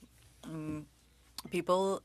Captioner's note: speaking french